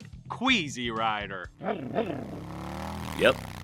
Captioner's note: motorcycle revving the engine